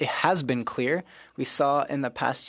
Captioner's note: speaking French